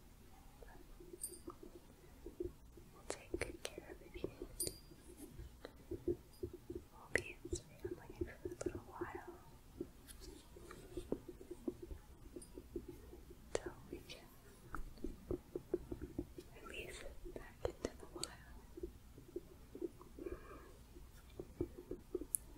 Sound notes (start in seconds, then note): 4.1 jingling, tapping; 10.0 gentle tapping, jingling; 18.7 gentle tapping